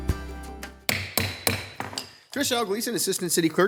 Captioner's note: gavel banging